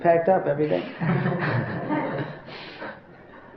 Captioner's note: laughter